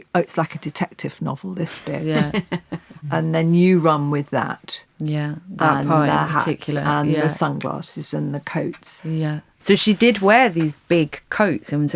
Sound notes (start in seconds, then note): 1.8 women laughing